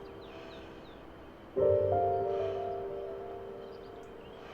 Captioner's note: birds chirping